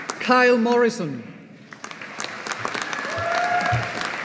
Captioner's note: audience applauding